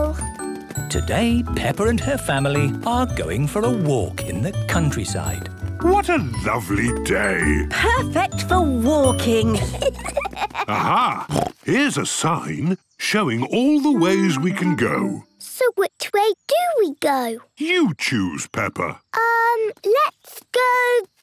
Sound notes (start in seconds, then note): 9.4 children giggling; 10.7 snorts